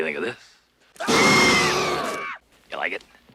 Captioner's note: Barbara and Adam scream